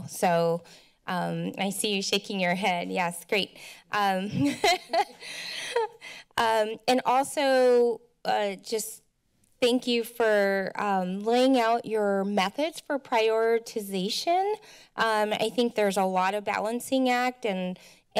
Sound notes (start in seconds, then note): 4.3 laughs